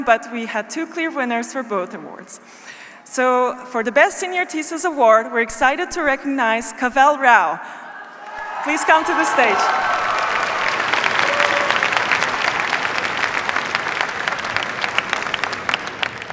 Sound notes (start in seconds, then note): 10.4 cheers, applause